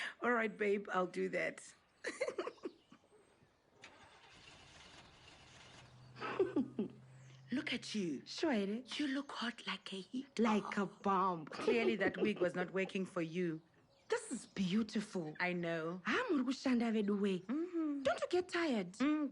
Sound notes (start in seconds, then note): 2.0 Neria laughs; 3.8 car engine starts; 6.2 Connie laughs; 8.4 in Shona